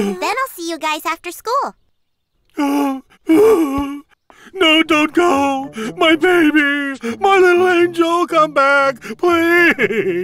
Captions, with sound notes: then I'll see you guys after school. (sobs) No dont go! My baby! My little angel come back! Please~